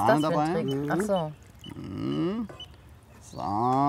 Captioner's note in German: Piepen